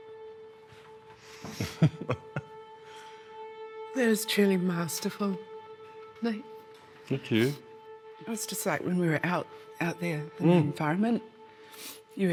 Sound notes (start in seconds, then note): 1.3 inhales sharply; 1.4 chuckles